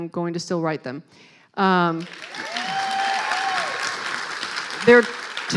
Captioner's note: clapping